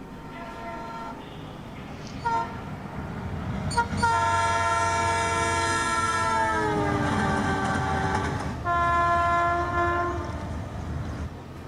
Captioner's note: sound of train